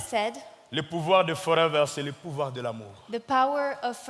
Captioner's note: speaking in French